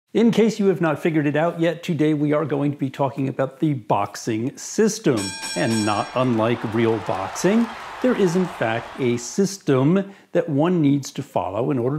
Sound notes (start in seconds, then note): 5.2 dinging; 5.5 cheering